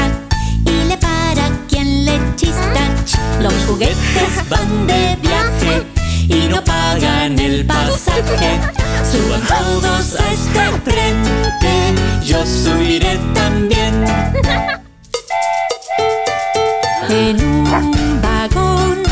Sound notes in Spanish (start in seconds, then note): 7.7 Risas; 10.7 ¡Hum!; 13.9 Sonido de tren; 17.7 Ladrido